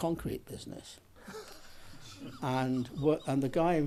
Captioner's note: laughs